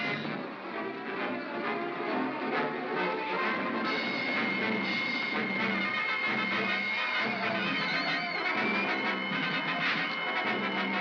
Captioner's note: triumphant music; suspenseful music; sounds of battle